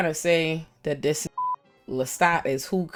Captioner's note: beep